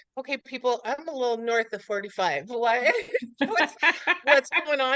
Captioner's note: laughs